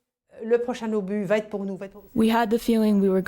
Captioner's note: speaking in foreign language